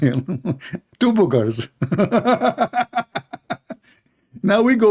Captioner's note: laughing